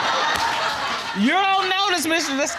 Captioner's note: audience laughing